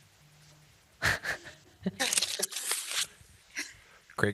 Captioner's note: laughs